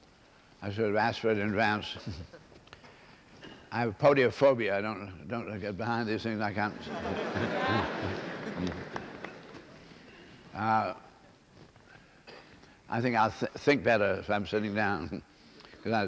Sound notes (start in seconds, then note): 6.6 laughter